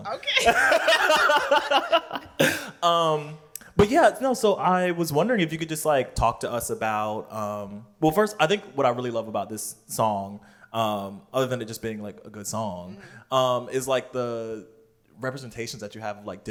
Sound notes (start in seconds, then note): 0.2 laughter